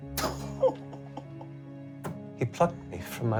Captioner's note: sad laughing